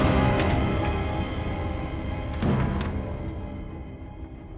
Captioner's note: dramatic music; pages flipping